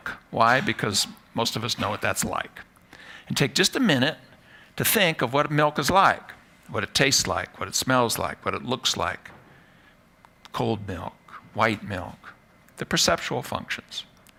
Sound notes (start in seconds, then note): none